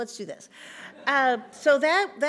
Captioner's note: audience laughs